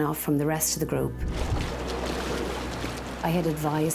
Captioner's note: water splashing